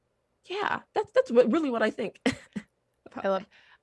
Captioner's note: laughs